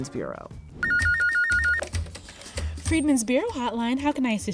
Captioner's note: telephone ringing